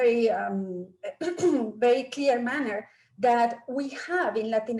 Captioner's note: clears throat